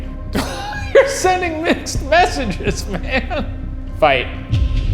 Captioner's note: laughs